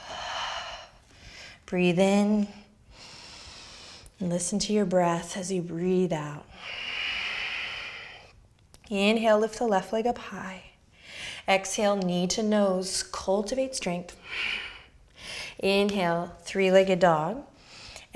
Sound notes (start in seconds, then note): 6.4 exhaling